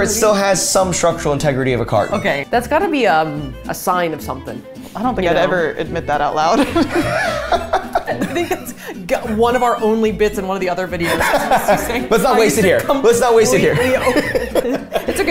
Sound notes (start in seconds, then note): 6.5 both laughing; 11.0 laughing